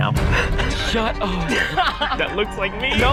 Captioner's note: laughing